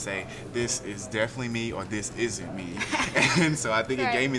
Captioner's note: laughs